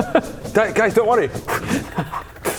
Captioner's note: whoosh